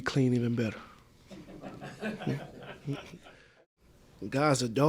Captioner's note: laughter